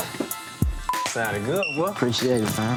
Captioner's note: beep